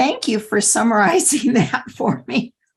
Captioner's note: laughter